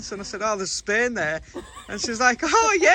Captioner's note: laughing